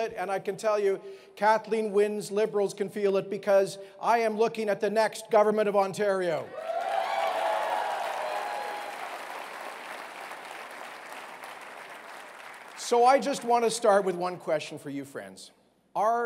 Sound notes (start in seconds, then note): 6.5 cheering